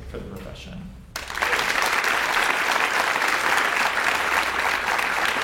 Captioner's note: audience applauds